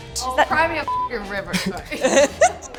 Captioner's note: beep